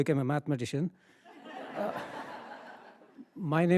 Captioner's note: attendees laughing